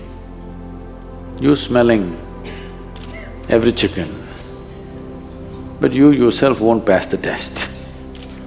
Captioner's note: laughs